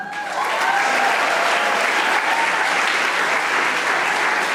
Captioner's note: audience applauding